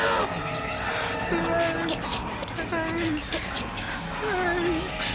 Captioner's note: bisikan panik